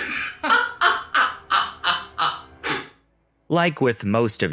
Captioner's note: evil laugh